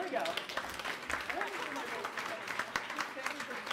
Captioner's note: applause